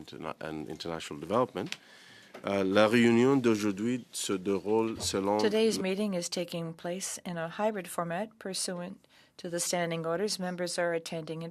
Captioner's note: speaking French